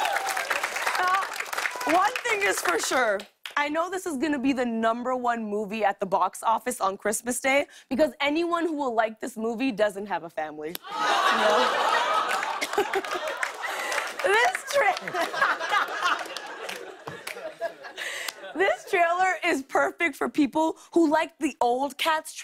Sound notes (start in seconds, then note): 10.9 laughter, groaning; 15.2 laughter